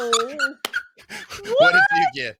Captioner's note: laughing